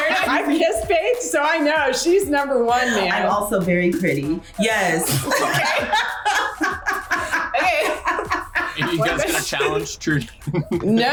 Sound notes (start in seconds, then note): 5.0 laughs